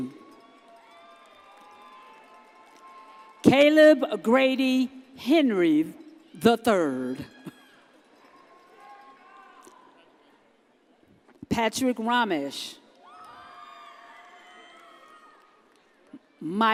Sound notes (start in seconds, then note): 0.2 audience cheers; 8.3 audience cheers; 13.1 audience cheers